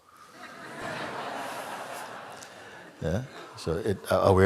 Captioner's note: laughter